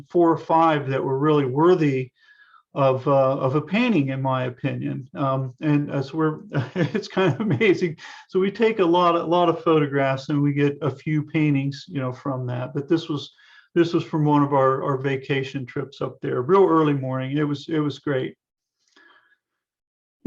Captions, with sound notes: four or five that were really worthy of a painting, in my opinion. And as we're, (laughs) it's kind of amazing. So we take a lot of photographs, and we get a few paintings, you know, from that, but this was from one of our vacation trips up there. Real early morning. It it was great.